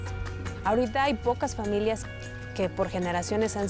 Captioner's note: speaking Spanish